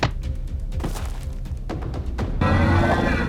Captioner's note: body thuds; shark roaring